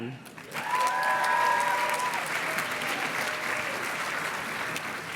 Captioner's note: audience cheers and claps